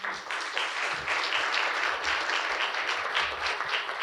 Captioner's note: audience applauding